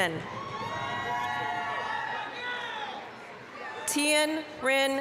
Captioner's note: applause, cheering